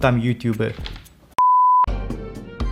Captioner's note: beep